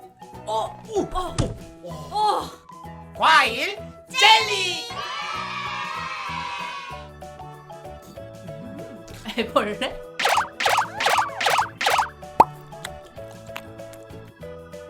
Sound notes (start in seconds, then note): 10.2 boing - Boing - Boing